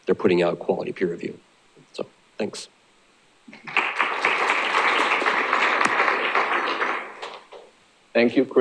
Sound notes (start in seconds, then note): 3.5 applause